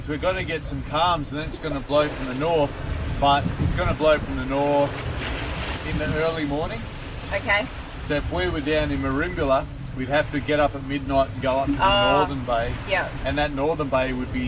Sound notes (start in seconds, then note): 5.4 water splashing; 5.4 wind blowing